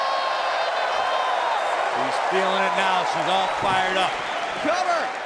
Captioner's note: cheers and applause